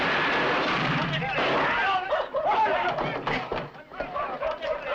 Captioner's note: all clamoring